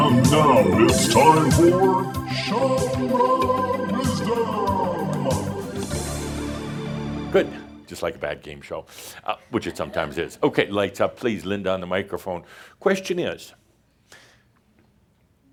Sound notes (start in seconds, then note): 9.3 a couple of chuckles